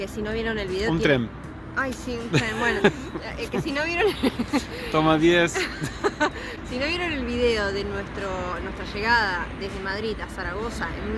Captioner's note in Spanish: risas